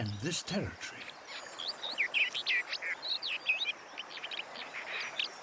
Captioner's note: complex chirping